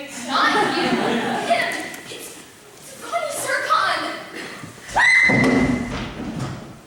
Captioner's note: happy screams